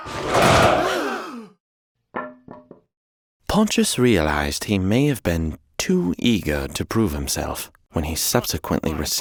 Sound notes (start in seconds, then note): 0.1 soldiers grunting; 0.6 people gasping; 2.2 wood clattering